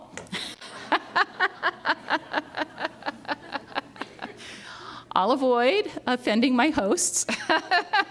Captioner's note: laughs; laughs